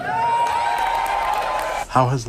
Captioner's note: cheers